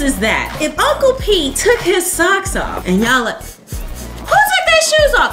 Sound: sniffing

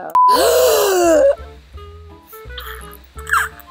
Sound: gasps

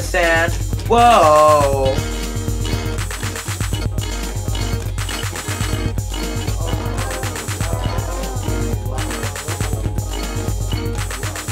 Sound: whoa!Oh!Oh!

